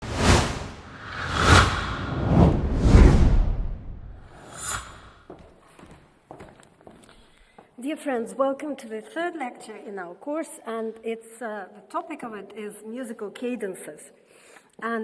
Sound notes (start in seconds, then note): 0.0 titles whooshing